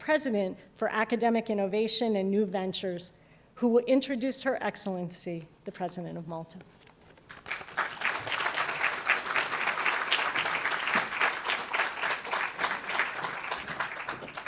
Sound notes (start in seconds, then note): 11.1 applause